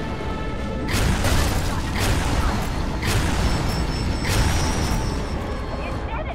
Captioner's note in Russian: выстрелы из ракетницы